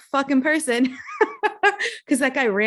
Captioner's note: giggling